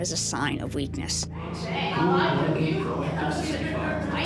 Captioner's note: inmates chattering